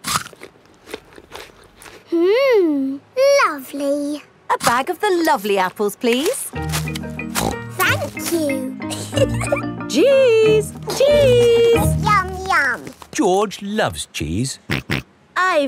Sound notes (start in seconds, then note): 0.0 crunches; 7.3 snorts; 8.8 giggles; 15.1 snorts